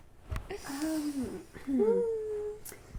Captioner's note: exhale